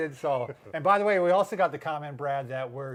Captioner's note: chuckling